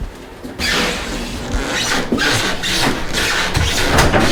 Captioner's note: boots squeaking